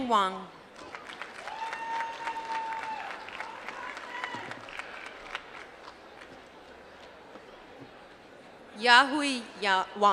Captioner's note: applause